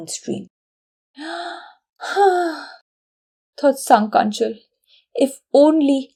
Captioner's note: sigh